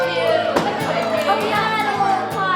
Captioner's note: whooping